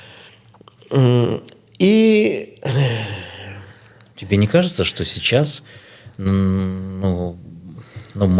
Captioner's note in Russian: тяжело вздыхает